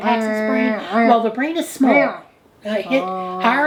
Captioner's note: humming